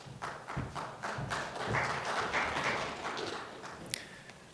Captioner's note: audience applauds